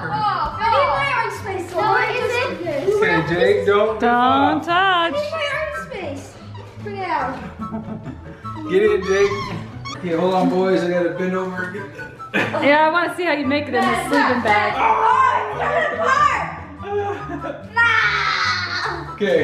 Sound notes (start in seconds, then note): 7.4 chuckles; 15.1 dad groans; 16.9 laughs